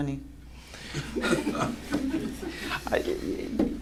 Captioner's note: laughter